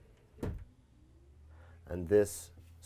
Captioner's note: cabinet thudding